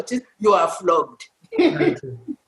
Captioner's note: laughter